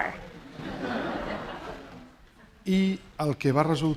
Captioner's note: laughter; speaking spanish